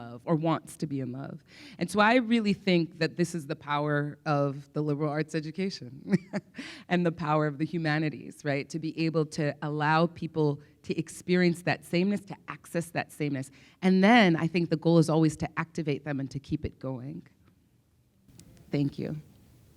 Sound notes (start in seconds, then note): 6.3 laughs